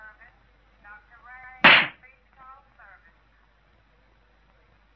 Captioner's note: smacking